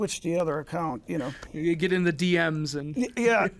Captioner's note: laughs